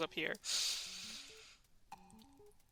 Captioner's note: deep Inhale